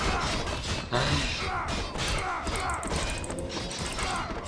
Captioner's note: sighs